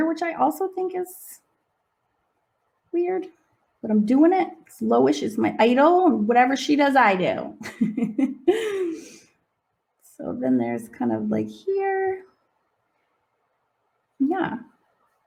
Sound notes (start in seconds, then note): 9.0 laughing